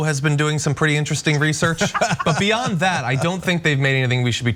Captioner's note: laugh